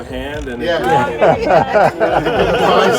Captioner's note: laughter